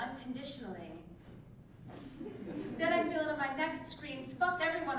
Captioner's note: laugh